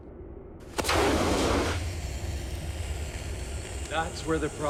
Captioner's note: flame hissing